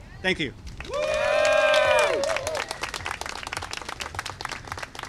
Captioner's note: applause and cheering